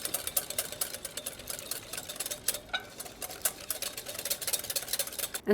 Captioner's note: whisk clangs on bowl